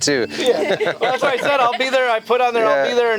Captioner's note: laugh